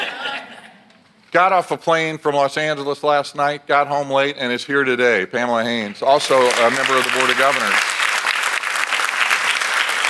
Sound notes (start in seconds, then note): 6.2 audience applauds